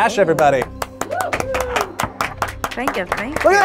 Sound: group applauds

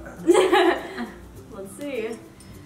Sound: laughing

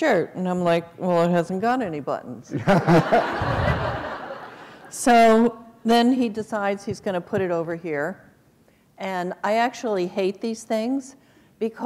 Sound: laughter

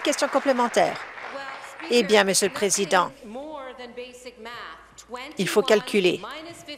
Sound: applause

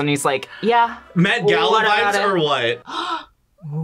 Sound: gasps

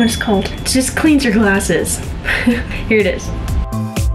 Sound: laughs; upbeat techno music

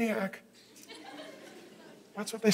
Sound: congregation laughing

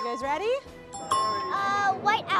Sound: ding

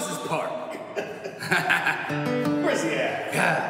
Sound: laughing

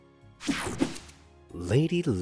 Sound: logo snaps

